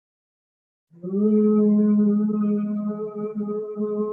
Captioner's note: humming